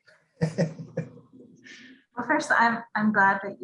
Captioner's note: giggles